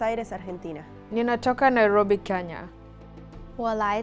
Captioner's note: speaking foreign language